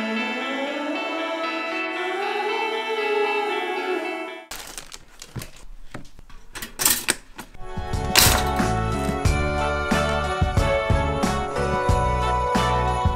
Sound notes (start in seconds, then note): 4.5 plastic crinkling; 6.4 toaster snapping; 9.3 festive rock music